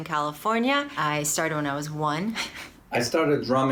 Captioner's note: chuckles